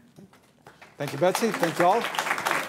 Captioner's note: applause